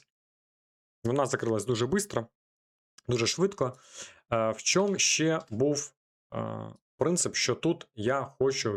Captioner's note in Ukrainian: сопіння